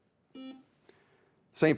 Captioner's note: buzzer beeps